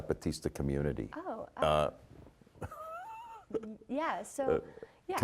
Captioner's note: chuckling